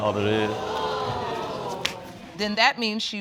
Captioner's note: audience exclaiming